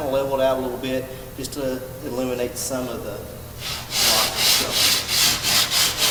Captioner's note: drowned out by sanding